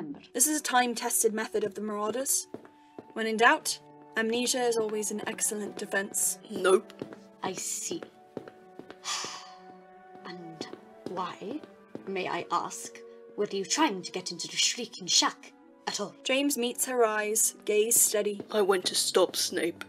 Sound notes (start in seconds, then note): 9.0 exhales